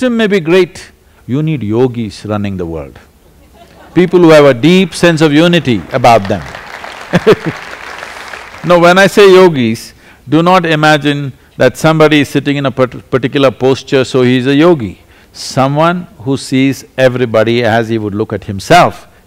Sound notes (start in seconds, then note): 3.2 laughter; 5.4 applause; 6.8 laughs